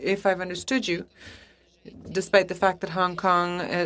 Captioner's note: speaking French